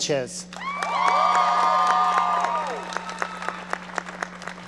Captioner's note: audience cheering